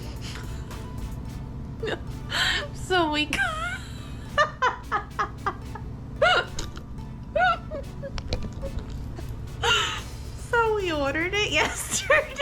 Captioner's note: laughs